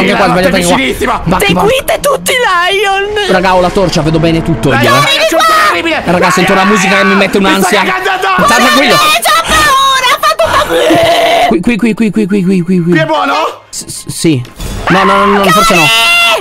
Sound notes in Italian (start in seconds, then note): 9.7 urla cose; 14.2 esitante